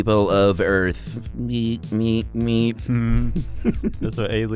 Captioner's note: robot sounds